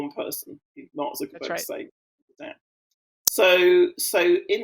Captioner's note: voice muffling